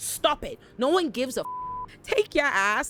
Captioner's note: beep